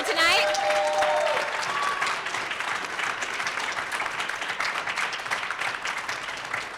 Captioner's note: audience applauds; audience cheers